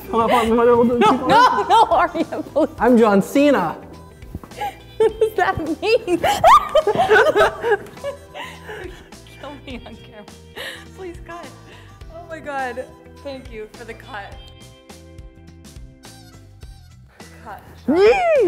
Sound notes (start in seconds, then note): 0.1 laughing; 4.5 laughing; 6.4 squeals; 7.2 laughing; 14.8 upbeat music